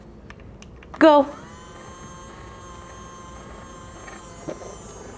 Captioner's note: motor whirring